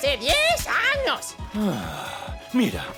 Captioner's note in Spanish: Ramsey suspira